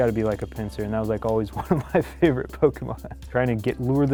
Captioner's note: laughs